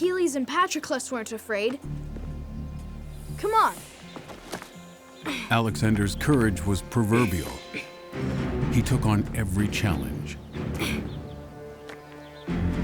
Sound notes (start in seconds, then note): 10.8 Alexander gasps